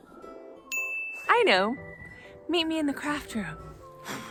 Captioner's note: ding!